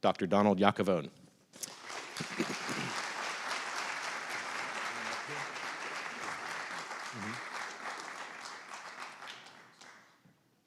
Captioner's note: applause